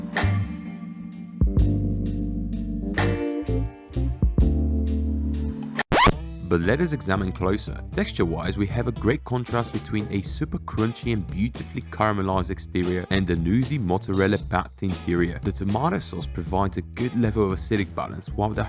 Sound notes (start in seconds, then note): 0.0 sultry jazz music; 5.7 record scratches